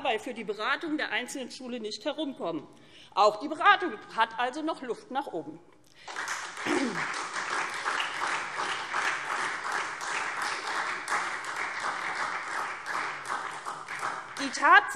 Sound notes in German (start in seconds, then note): 6.0 Beifall SPD